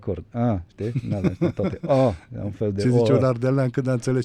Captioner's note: laughter